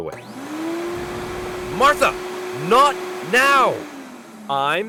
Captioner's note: vacuum roaring